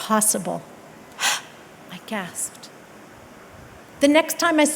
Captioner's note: gasp